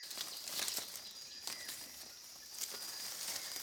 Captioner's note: rustling